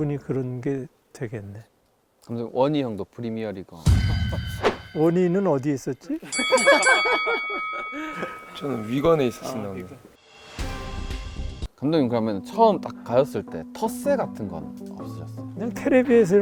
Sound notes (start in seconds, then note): 6.2 Ji-sung can't stop laughing